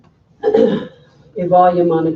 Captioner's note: clearing throat